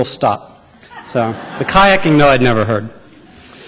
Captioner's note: laughter